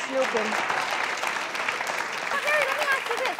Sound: crowd clapping

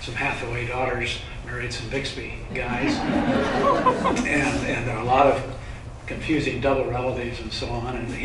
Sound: laughter

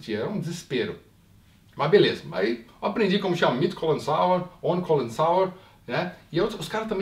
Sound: speaks german

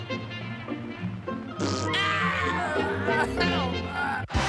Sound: crying

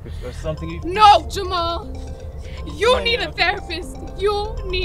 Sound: phone rings

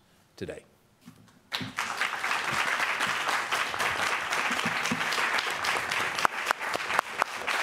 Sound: applause

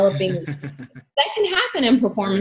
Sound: laughs

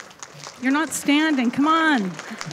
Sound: audience applauding

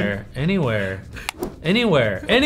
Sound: Anthony chuckles; mouse clicking

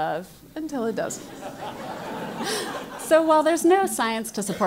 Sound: laugh

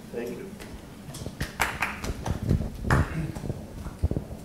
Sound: clapping

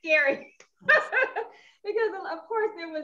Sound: laughs

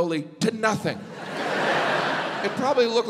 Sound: audience laughs

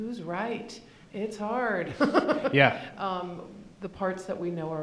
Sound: laughing

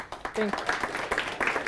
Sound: applause

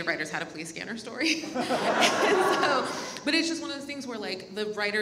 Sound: all laugh

